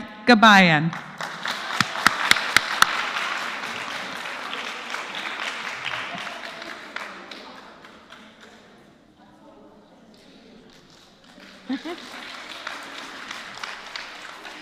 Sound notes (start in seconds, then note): 0.0 applause; 7.7 applause; 7.7 laugh; 13.4 applause